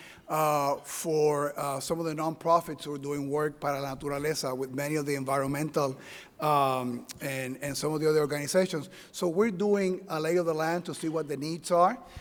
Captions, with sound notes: for some of the nonprofits who are doing work, (speaking in Spanish) with many of the environmental and and some of the other organizations. So we’re doing a lay of the land to see what the needs are